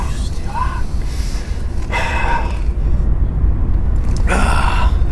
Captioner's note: sighing